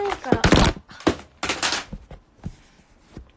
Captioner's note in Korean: 우당탕